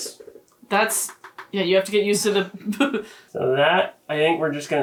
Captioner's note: laughs